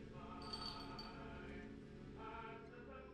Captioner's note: chain rattling gently